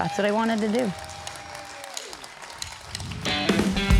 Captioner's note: audience cheers; upbeat guitar music